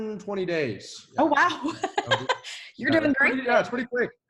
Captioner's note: laughs